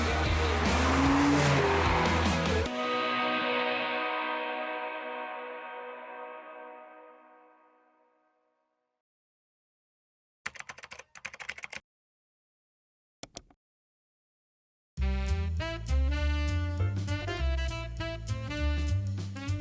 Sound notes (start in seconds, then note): 11.2 keyboard clacking; 13.2 mouse clicks; 15.0 lively music